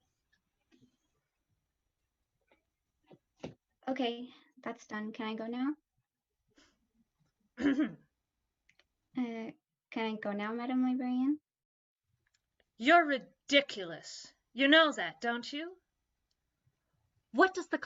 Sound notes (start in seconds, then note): 7.6 throat clearing